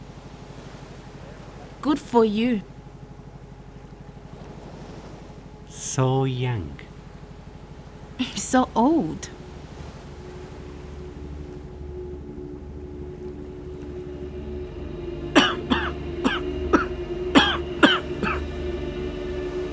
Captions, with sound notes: - Good for you. - So young. - So old. (ominous music) (coughing)